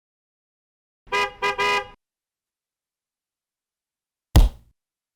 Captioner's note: horn honking; pop